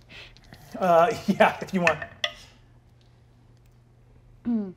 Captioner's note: dice clatter